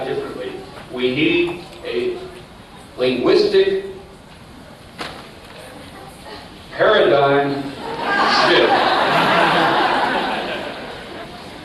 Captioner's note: laughter